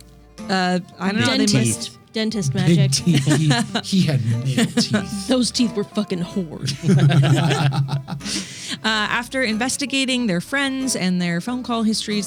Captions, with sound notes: I don't know. Dentist magic. Big teeth. He had male teeth. Those teeth were fucking hoard. (laughing) After investigating their friends and their phone call histories,